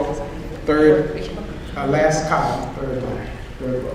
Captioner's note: audience responds